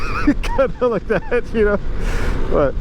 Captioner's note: Laughing